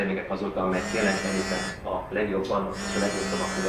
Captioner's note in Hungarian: telefonrezgés